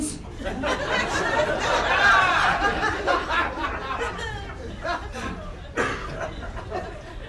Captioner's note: crowd laughter